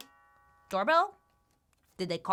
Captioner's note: doorbell rings